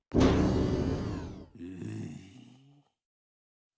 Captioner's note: groan